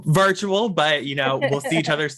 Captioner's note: laughs